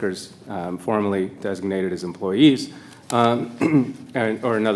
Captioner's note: clears throat